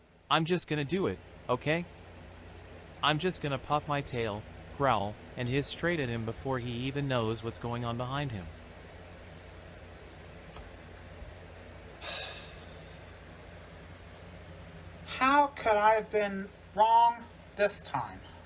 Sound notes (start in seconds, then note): 12.0 sighs